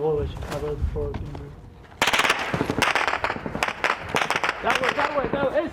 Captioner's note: gunfire